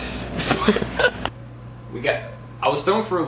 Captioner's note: laughing